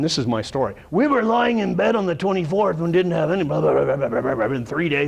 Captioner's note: rrrrrr growling inaudible